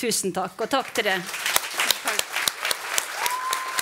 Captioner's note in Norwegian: Applaus